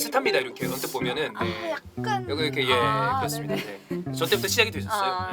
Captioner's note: weep